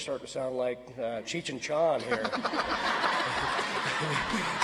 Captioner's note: audience laughs